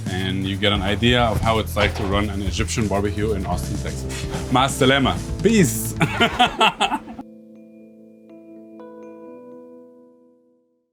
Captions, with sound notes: and you get an idea of how it's like to run an Egyptian barbecue in Austin, Texas. [speaks in foreign language] Peace. [laughs]